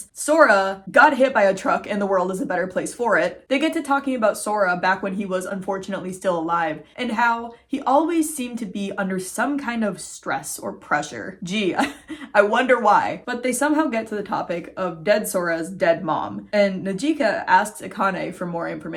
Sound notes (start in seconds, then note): 11.7 chuckling